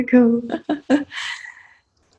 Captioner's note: chuckling